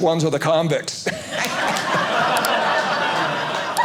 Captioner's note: audience laughing